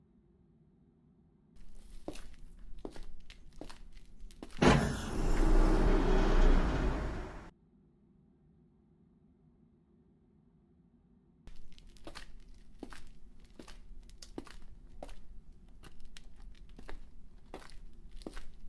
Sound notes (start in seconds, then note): 3.8 footsteps